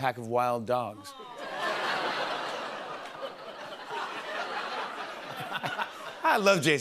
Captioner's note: laughter